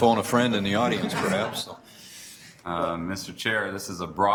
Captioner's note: Board members laugh